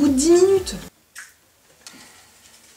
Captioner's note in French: Pshiit